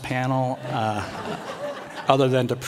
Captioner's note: laughter